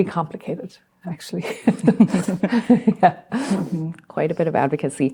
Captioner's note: laughter